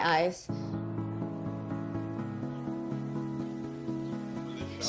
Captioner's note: birds chirping